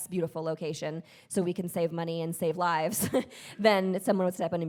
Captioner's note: chuckles